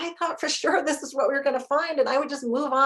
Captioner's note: chuckles